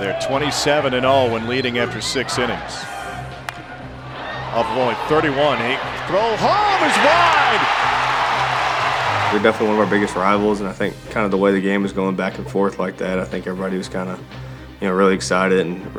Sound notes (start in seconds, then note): 0.2 voiceover; 7.9 crowd cheers